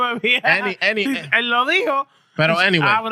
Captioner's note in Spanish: Hablando en idioma extranjero